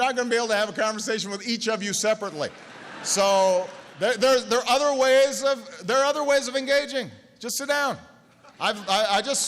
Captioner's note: laughter